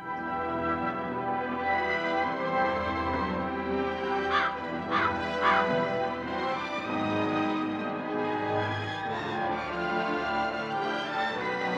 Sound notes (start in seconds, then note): 3.2 ominous music; 4.8 bird squawks